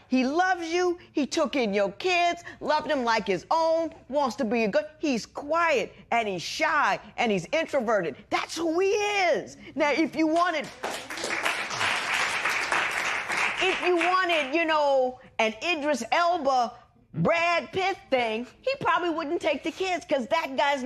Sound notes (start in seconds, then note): 10.7 cheers and applause